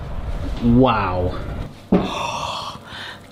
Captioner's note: oven whirring